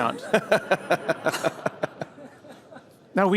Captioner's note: laughter